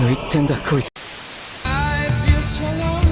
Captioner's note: static